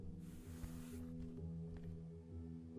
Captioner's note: none